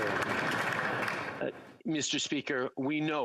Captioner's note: applause